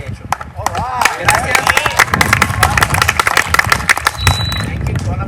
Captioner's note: applause